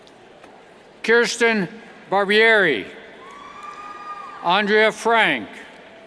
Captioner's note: cheers